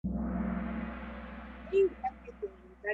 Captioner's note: gong